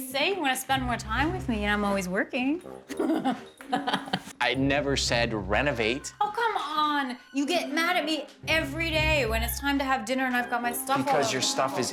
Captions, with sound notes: You say you want to spend more time with me and I'm always working. [ Laughs ] I never said renovate. Oh, come on. You get mad at me every day when it's time to have dinner and I've got my stuff all over the table.